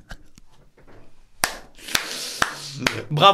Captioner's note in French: applaudissement